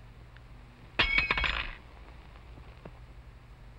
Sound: clanging

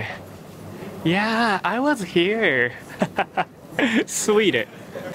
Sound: chuckles

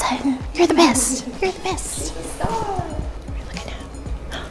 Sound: laughing

